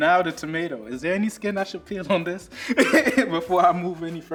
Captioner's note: laughs